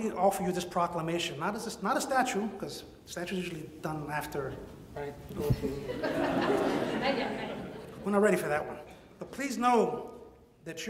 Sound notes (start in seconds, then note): 8.3 murmurs; 8.9 audience laughs